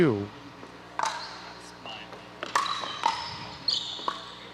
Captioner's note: ball bouncing